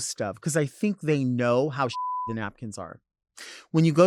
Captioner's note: beep